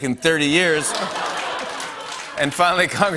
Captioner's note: laughter